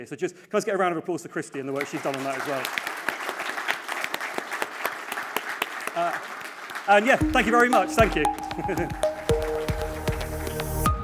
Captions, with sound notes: So just, let's get a round of applause to Christie and the work she's done on that as well. (audience applauding) And yeah, thank you very much, thank you. (light music)